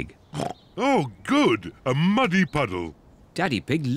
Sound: snorts

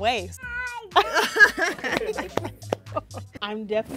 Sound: exclaims

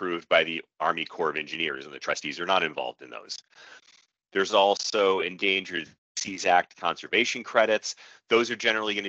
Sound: audio skips forward

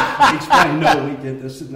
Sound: laughter

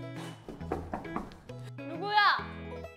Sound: knock knock knock

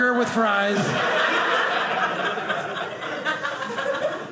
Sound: audience laughing

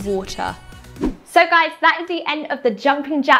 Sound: air whooshing

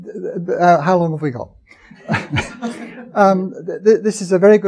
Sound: chuckling

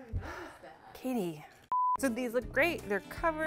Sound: beeps

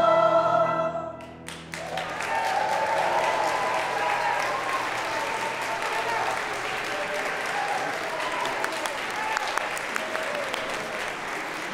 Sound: applause

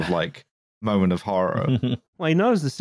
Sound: chuckles

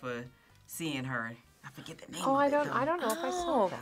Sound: laughs

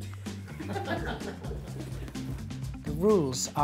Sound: upbeat music; laughing

